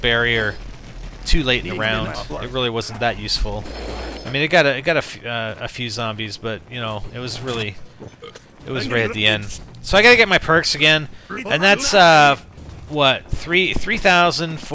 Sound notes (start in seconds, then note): 8.0 burps